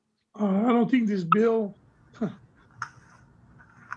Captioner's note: chuckles